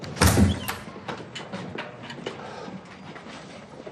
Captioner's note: door bangs